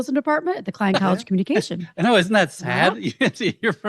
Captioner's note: chuckles